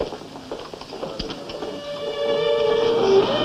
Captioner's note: whispering